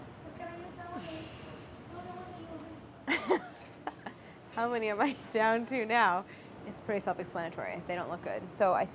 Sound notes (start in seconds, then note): 0.9 laughs; 1.0 sighs